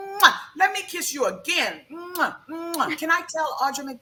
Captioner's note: lips kiss; lips kiss